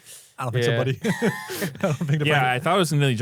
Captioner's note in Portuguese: risos